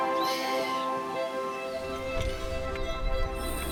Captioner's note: birds tweeting